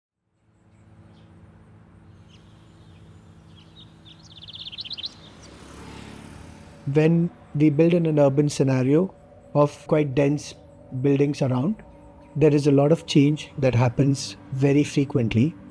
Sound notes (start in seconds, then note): 0.1 birds chirping; 5.4 vehicle passing